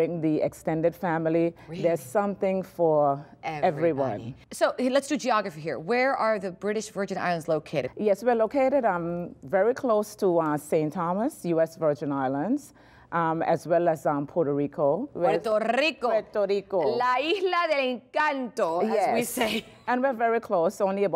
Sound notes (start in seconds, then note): 16.3 speaking spanish